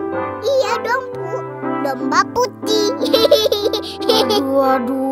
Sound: laughing

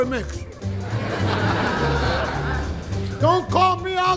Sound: audience laughing

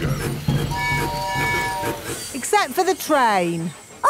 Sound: train tooting

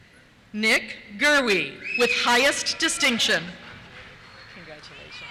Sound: cheers

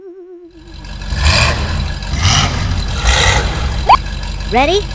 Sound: engine revs; beep

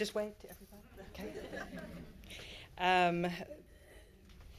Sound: all laughing

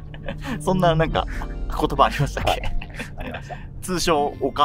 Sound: laughing

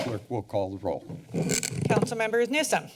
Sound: mic sounds

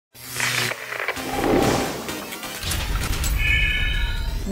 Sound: sound Effects

